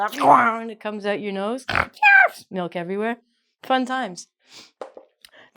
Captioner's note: snorts